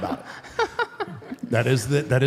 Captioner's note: Michelle laughs